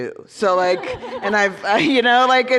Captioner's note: laughter